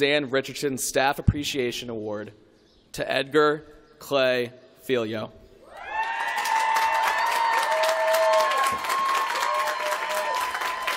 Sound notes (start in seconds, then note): 5.9 applause